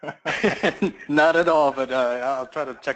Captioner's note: laugh